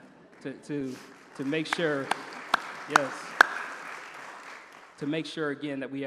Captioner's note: applause